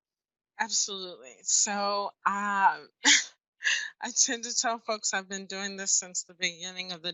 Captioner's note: laughs